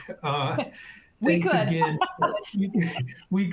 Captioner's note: laughs